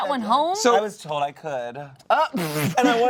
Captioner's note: sputtering laughter